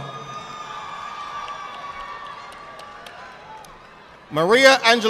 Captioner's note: audience applauding